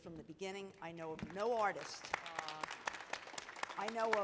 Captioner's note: audience applauding